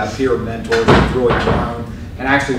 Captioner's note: door closing